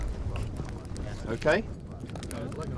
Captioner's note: fire crackles